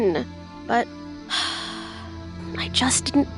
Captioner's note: sighs